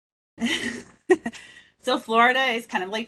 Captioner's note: chuckles